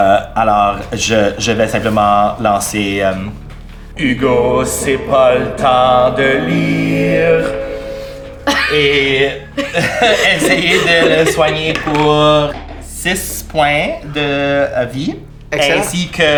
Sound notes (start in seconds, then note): 9.6 laughter; 11.5 rolling die